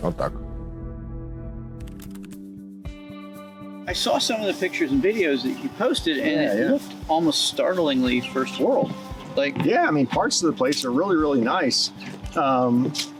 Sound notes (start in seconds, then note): 3.9 in English